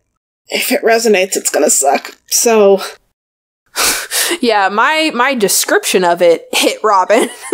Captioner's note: laughs